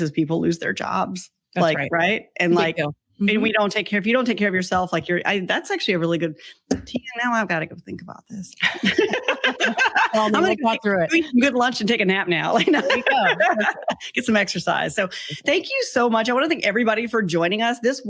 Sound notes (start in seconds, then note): 8.6 both laughs; 12.6 laughs